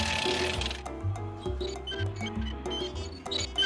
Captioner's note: tires squeaking